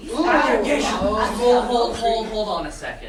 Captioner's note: sailors clamoring as Circe lists cheeses